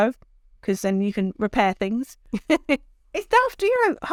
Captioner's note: chuckles